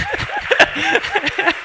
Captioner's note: laughs